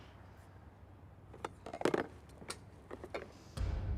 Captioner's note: objects clattering